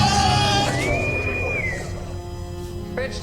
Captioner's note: intercom whistles